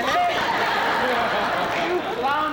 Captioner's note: laughter